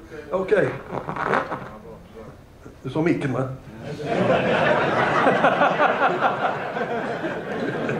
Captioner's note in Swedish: Skratt